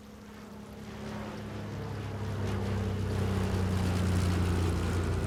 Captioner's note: airplane engine humming